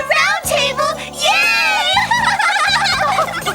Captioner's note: giggling